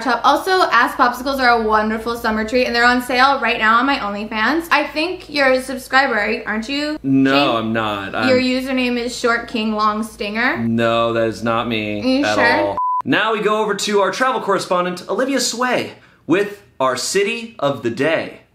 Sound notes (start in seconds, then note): 12.3 beep